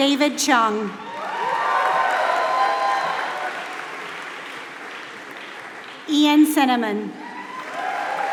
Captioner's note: applause